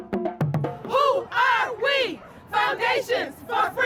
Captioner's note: crowd